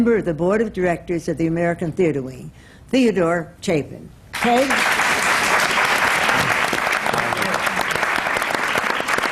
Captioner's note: applause